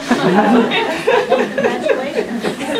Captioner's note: laughter